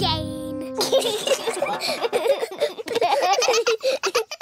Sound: all giggling

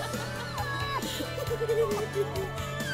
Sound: group laughing; children crying; group crying

